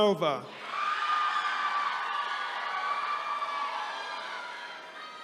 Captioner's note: attendees cheering